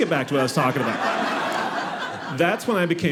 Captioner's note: audience laughing